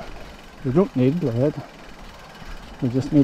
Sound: the brakes

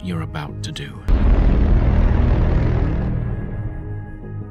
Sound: boom; ♩suspenseful music♩

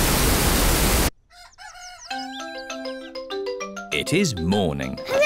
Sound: cockerel crows

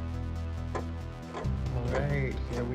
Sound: clock ticking

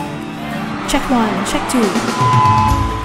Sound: jubilant crowd applause

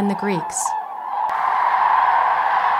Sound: continuing wetlands sounds

